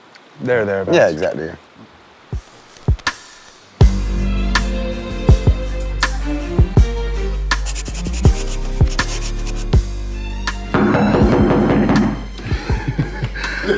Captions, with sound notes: There there abouts. Yeah, exactly. (Knocking)